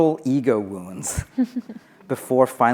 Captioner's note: laughing